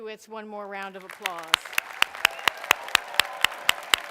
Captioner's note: applause